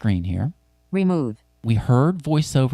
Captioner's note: automated Female Voice